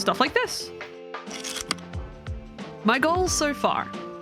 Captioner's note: projector slide click